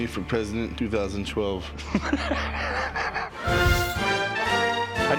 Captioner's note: laughter